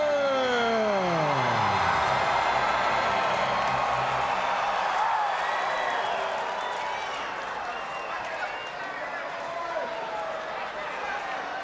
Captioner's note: crowd cheering